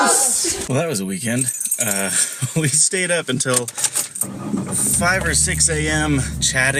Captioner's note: laughs